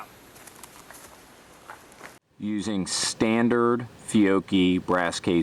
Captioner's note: voiceover